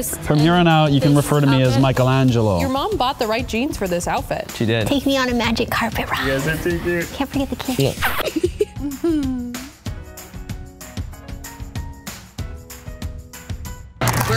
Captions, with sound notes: - From here on out, you can refer to me as Michelangelo. - Your mom bought the right jeans for this outfit. - She did. - Take me on a magic carpet ride. - You guys are too cute. - Can't forget the kiss. (giggles) (upbeat instrumental music)